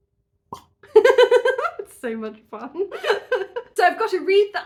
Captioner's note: pop; giggling